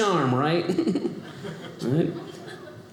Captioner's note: audience laughing